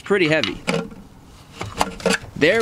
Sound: starter clattering

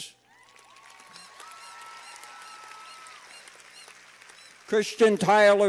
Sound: cheers and applause

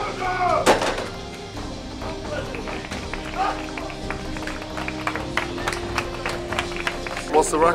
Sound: applause

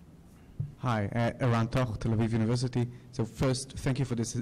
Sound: voiceover

